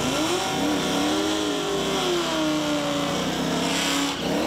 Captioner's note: engine revving